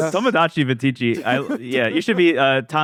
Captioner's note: laughs